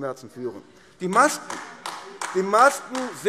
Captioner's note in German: Beifall AfD